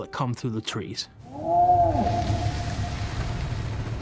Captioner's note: roaring